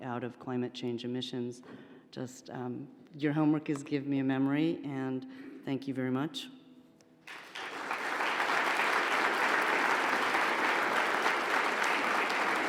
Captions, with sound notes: out of climate change emissions. Just, your homework is give me a memory and thank you very much. (audience applauds)